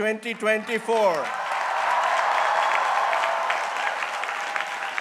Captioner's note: crowd cheering